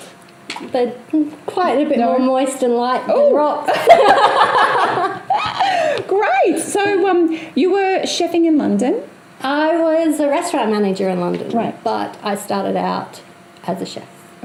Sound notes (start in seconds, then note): 3.7 laughs